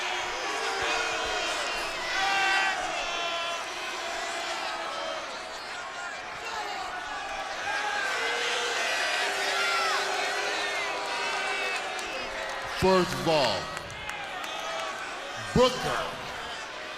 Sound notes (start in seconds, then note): 10.5 crowd chatter